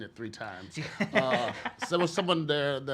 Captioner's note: laughs